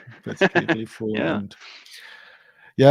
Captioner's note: laughing